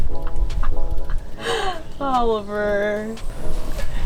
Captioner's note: laughter